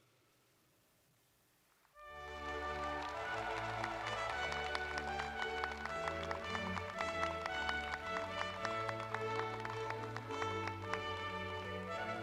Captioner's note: applause